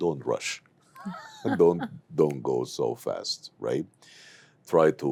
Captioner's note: laughs